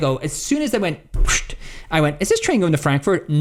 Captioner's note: mimics door closing